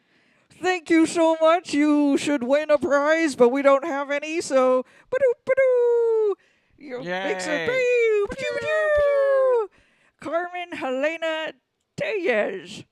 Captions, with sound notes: thank you so much, you should win a prize but we don't have any so (Luke and Leia make celebratory silly sounds) Carmen-Helena Tellez